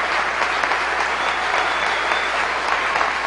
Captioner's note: cheering and Applause